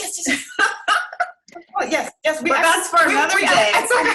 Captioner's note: laughing